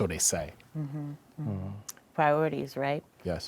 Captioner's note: none